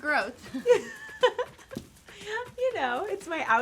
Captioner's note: laugh